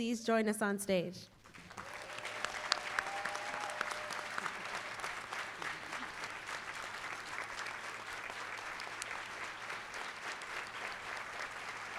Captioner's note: applause